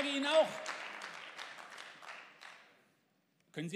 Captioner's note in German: Beifall